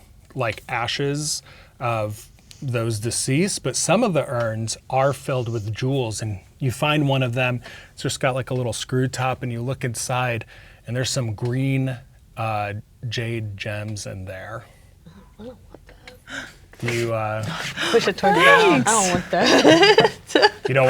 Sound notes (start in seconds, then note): 17.4 gasps; 20.1 laughing